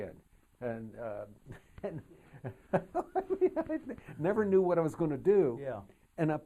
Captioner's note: laughs